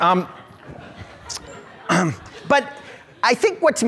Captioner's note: audience laughs